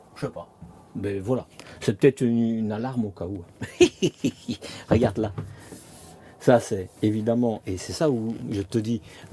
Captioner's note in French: rires